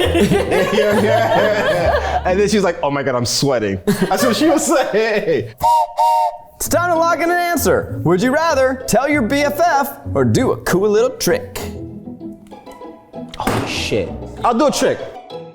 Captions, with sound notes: (everyone laughs) And then she was like, "Oh my god, I'm sweating." That's what she will say. (whistle blows) - It's time to lock in an answer. Would you rather tell your BFF or do a cool little trick? - Oh shit. I'll do a trick.